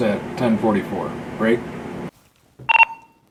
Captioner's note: beep